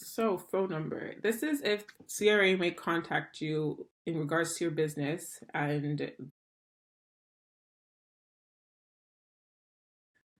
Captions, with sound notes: Phone number. This is if CRA may contact you in regards to your business. (audio cuts out)